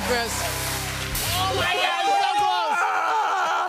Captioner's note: Mario power-up sound plays